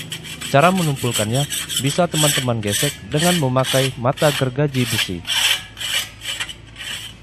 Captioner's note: scrape with a hacksaw